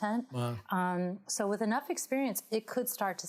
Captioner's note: none